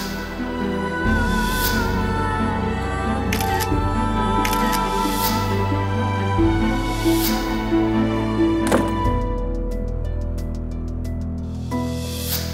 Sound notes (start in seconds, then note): 0.1 gloomy music playing; 4.4 camera clicks; 8.6 door closing; 10.3 tense music playing